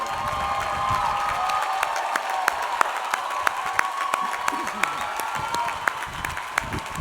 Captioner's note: audience applauding; audience cheering